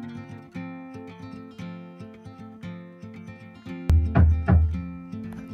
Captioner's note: knocking and hammering